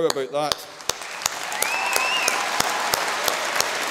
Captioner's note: audience cheers